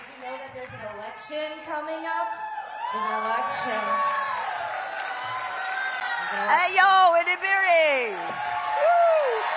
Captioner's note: cheering